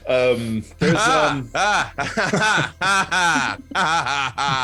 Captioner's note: The Professor laughs mechanically